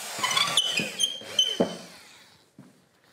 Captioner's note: squeaking